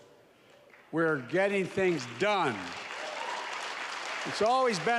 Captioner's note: applause